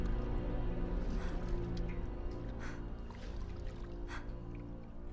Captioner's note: Mattie panting